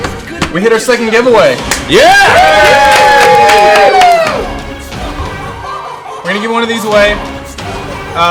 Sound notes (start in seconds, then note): 1.7 all cheer